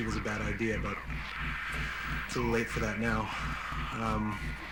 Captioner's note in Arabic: يستنشق بعمق